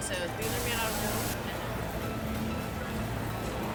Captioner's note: static crackling